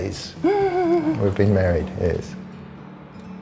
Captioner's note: gasps